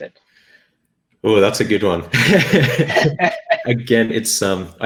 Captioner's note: laughing